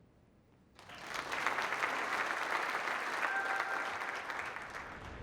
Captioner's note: applause